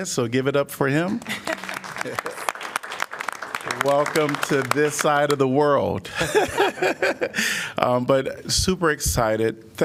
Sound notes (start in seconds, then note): 1.2 applause; 1.2 laughter